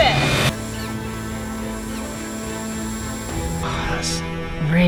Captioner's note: mixer whining; dramatic music